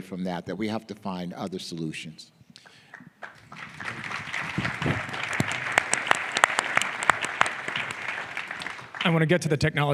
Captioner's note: applause